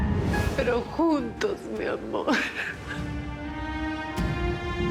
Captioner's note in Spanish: sollozos